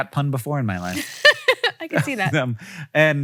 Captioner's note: laughs